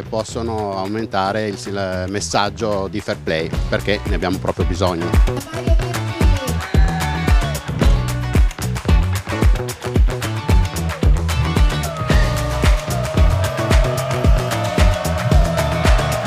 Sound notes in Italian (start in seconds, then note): 5.1 Applauso